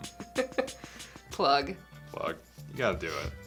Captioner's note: laughs